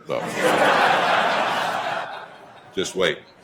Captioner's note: attendees laughing